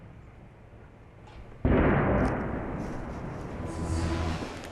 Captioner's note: detonation